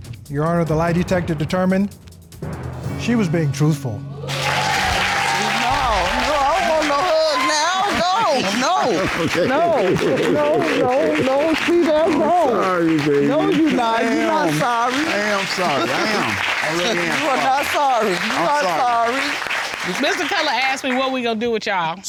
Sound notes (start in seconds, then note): 4.2 audience cheers; 9.4 laughs